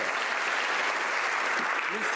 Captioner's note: some Applause